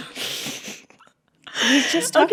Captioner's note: laughter